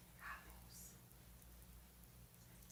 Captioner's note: whispers